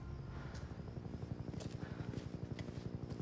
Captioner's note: helicopter flying